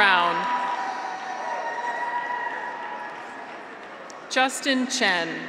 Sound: graduates cheer

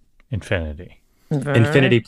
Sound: laughs

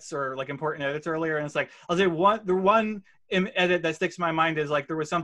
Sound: none

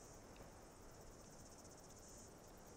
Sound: insects humming

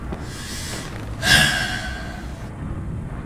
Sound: sigh

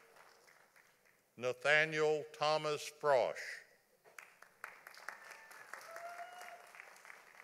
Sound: audience applauding

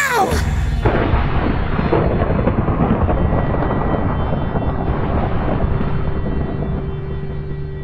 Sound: thunder

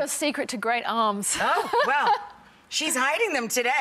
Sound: laughing gently

